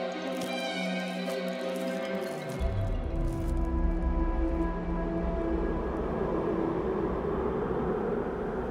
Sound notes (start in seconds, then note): 5.7 wind moans